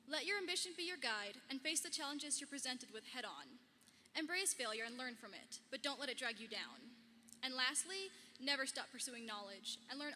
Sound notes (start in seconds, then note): none